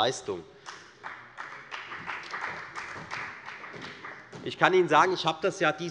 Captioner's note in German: Beifall der Abg